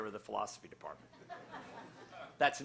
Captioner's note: laughter